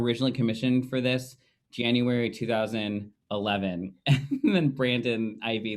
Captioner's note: laughing